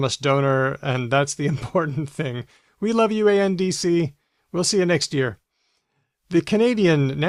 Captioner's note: chuckles